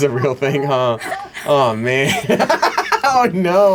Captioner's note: laughs